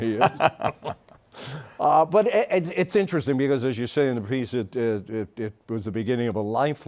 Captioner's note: both laughing